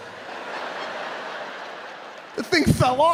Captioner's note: audience laughing